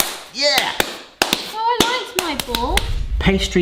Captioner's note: hands slapping